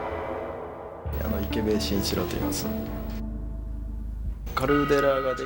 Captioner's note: speaking japanese